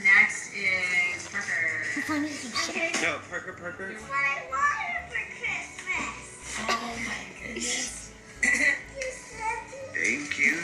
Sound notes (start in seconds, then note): 8.6 clears throat